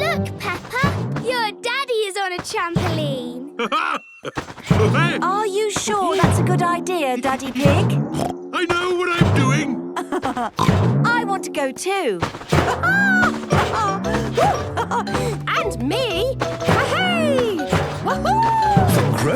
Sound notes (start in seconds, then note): 3.4 laughs; 9.9 laughs; 10.3 snorts; 12.6 laughs